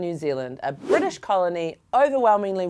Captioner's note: air whooshing